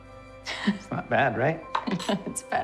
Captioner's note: Lidia chuckles